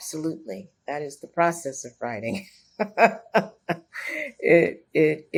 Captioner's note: laughs